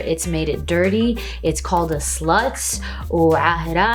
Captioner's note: speaks Arabic